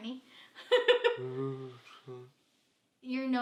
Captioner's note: laughs